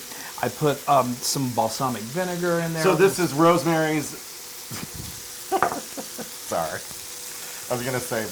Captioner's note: laugh